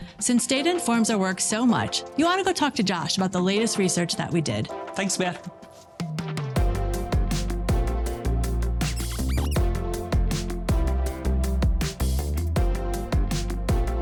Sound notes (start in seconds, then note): 6.2 upbeat music continues; 8.9 dry erase marker squeaking; 10.4 upbeat music continues